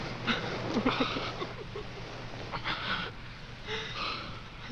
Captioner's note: Diane sobbing